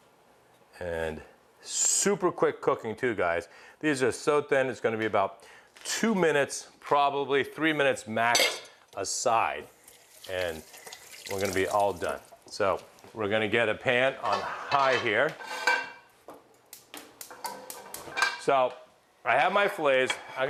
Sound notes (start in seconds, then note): 9.8 washing hands; 16.5 igniter clicking